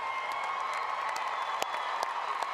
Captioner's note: applause